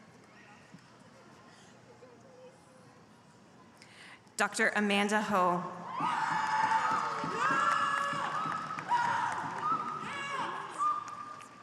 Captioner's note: applause